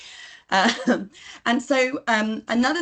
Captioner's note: she chuckles